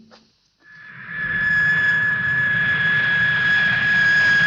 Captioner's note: airplane engine whirring